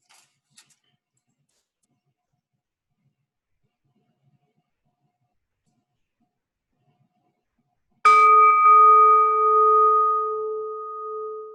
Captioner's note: bell ringing